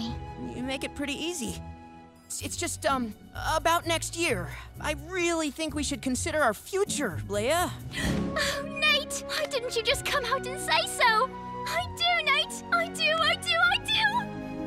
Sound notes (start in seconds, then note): none